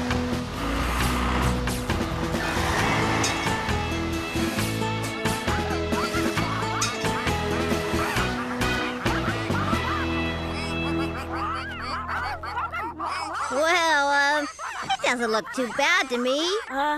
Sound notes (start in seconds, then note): 3.5 engines Running; 5.9 ducks Quacking